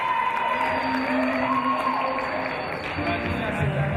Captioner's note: cheers and applause